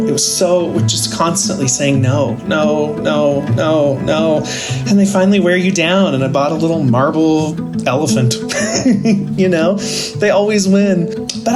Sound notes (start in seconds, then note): 8.4 laughing